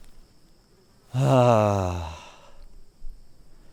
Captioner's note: sighing